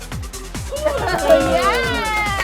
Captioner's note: cheer